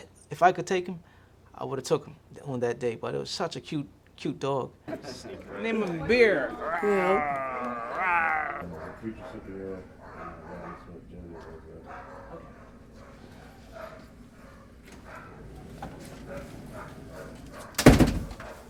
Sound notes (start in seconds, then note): 10.0 dogs barking; 17.7 door shuts